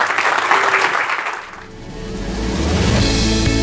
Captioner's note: audience applauding; upbeat music